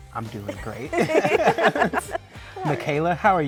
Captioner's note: laughter